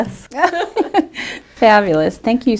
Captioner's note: laughter